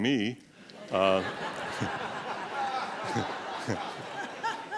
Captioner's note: laughter